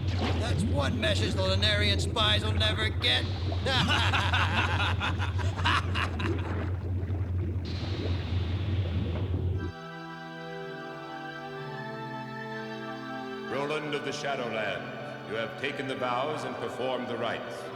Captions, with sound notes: That's one message the Lunarian spies will never get! [BOTH LAUGHING] Roland of the Shadowlands, you have taken the vows and performed the rights,